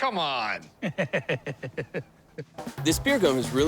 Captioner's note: chuckles